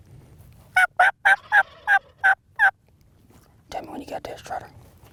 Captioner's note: turkey gobbling; turkey call